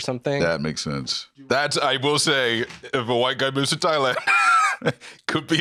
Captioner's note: laughs